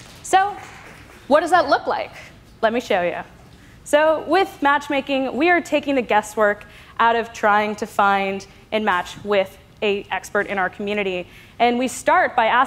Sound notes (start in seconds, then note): none